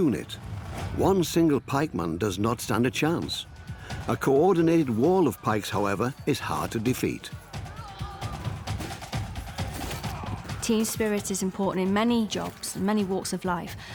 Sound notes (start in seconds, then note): 7.5 soldiers grunt